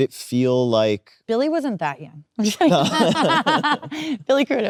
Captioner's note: both laughing